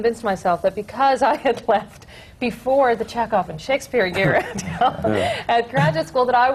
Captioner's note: laughs